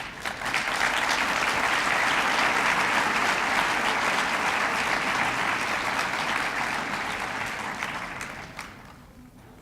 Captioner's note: applause